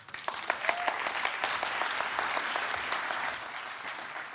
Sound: applause

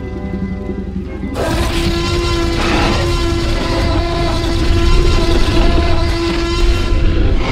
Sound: T-Rex Sounds; T-Rex Roaring Sounds

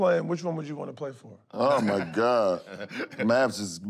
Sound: laughs

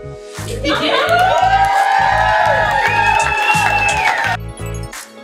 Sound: laughter and cheers

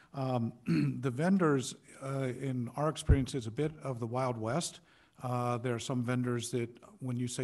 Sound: clearing throat

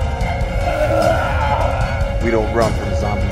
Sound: vomit sound

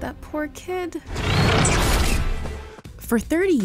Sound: creature screeches

